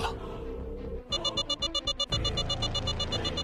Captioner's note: alarm